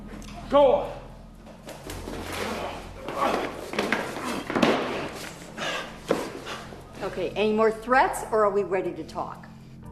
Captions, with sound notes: Gola! [grunting] [panting] Okay. Any more threats or are we ready to talk?